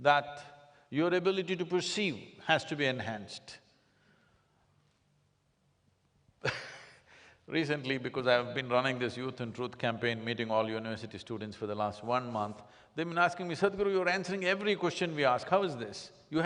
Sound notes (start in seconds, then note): 6.4 laughs